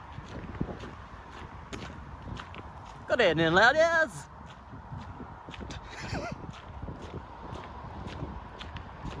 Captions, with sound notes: (Silly posh voice) Good evening ladies (Laughter)